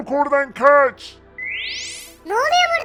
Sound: teleport sound

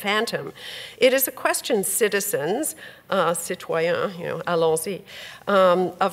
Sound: speaks French

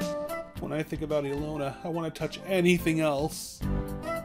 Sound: scared

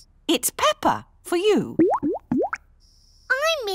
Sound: bubbling

